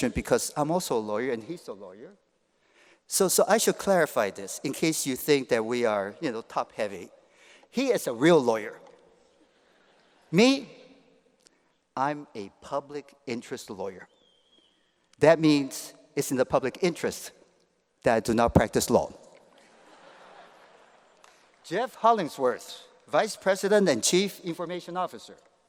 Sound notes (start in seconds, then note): 19.5 laughter